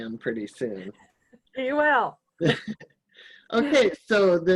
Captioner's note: laughing